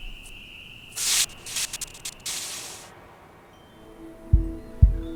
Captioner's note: static crackles; peaceful music